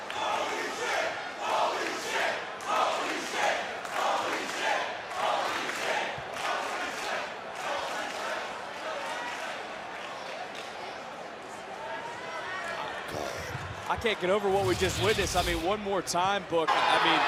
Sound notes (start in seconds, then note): 2.5 crowd chants "holy --"